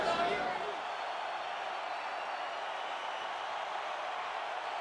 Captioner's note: spectators cheering